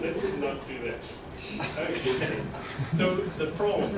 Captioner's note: laughter